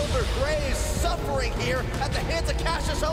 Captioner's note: bell ringing